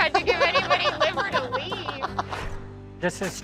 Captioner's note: laughing